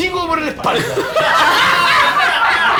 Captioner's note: laughs